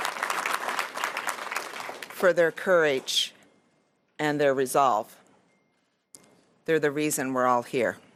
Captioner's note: applause